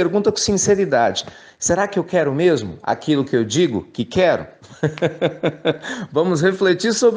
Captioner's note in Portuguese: risos